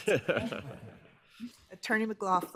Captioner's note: justice laughs